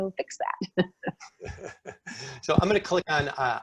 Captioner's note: laughing